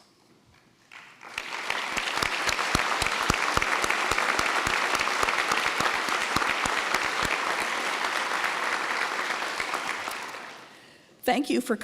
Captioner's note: applause